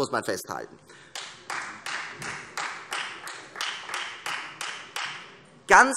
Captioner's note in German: Beifall Freie Demokraten